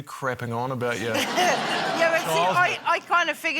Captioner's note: laughter